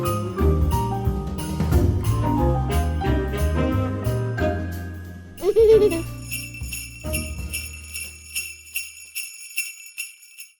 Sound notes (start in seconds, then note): 0.0 holiday music; 5.4 jingling bells